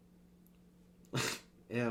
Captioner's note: nose exhale